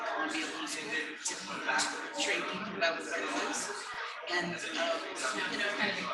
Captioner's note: people chattering indistinctly